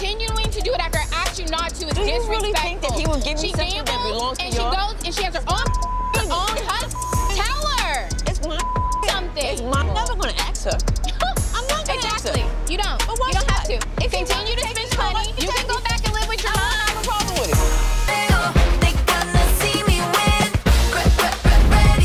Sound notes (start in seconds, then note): 5.6 beep; 11.4 scoffs